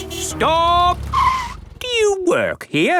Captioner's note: tires screeching